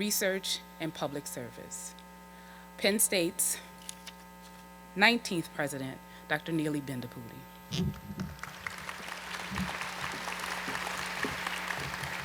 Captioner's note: applause